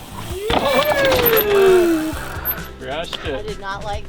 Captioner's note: wheels squeaking